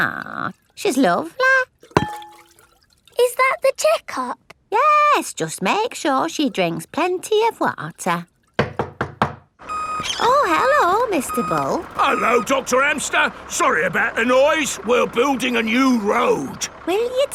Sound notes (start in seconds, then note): 8.6 knocking at door